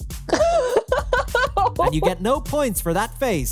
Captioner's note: laughs